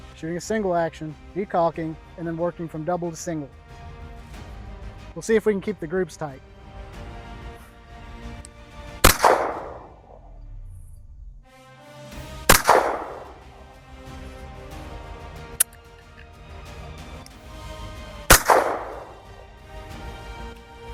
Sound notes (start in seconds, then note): 9.0 gunshot; 12.4 gunshot; 18.3 gunshot